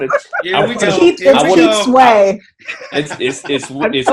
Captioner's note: group chattering